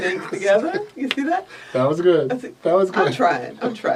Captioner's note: laughs